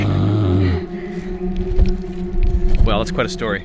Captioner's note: laughing